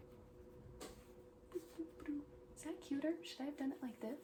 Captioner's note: humming to myself